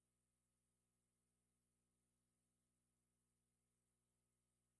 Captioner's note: none